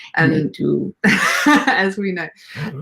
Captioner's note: both laugh